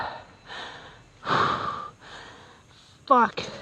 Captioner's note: heavy breathing